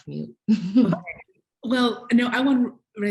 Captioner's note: laughs